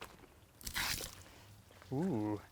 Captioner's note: water splashing